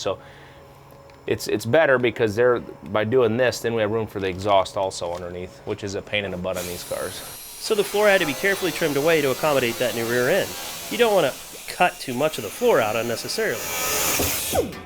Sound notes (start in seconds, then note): 6.8 tool whining